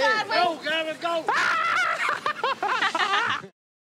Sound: laughs

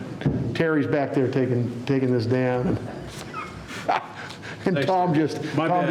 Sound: laughing

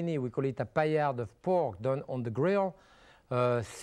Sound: none

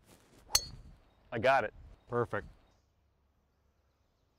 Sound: ping!

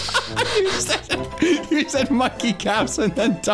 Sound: laughing

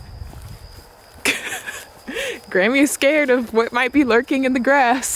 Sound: chuckles

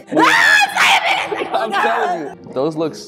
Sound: yell

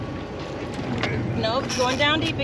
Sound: reel spinning

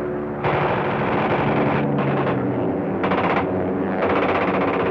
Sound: shooting sounds

